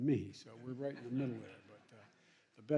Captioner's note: laughter